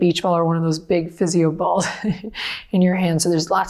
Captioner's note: laughs